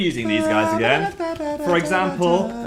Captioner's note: Dan humming